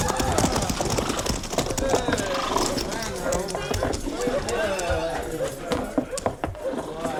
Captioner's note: men shouting